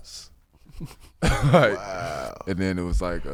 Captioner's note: laughing